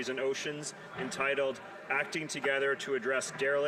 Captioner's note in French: voix de l'interprète